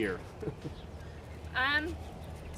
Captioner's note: chuckles